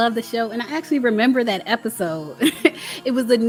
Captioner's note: laughs